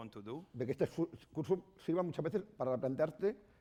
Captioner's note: speaking spanish